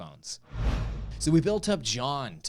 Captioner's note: woosh